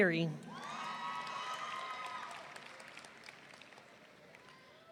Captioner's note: audience cheering